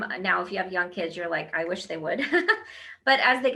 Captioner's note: laughs